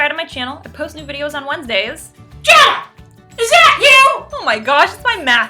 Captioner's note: shrill voice